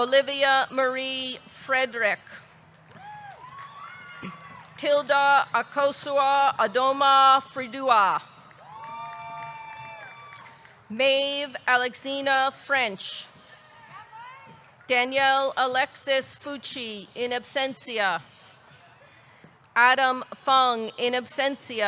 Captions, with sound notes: Olivia Marie Fredrick. (audience cheering) (audience clapping) Tildah Akosuah Adomah Fredua. (audience cheering) (audience clapping) Maeve Alexina French. Danielle Alexis Fucci, in absentia Adam Fung, in absentia.